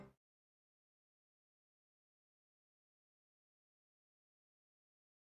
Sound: silence

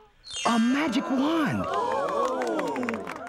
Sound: crowd gasping

